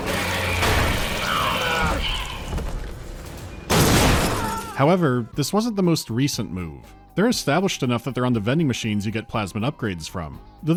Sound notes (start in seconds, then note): 3.6 thwack